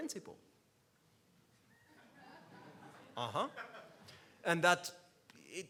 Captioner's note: laughs